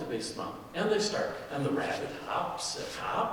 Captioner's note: none